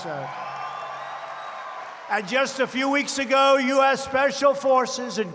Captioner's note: applause